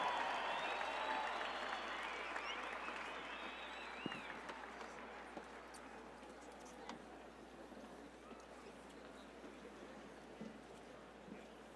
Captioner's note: cheers and applause